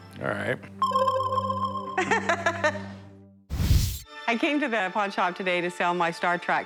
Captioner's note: laughs